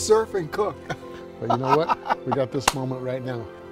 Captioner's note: laughing